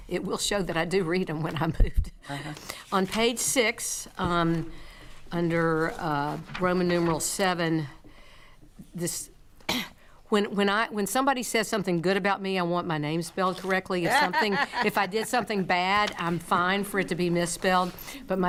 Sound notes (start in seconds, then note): 9.7 coughs; 14.0 laughing